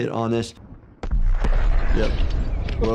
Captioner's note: explosion banging